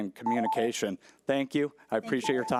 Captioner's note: timer trills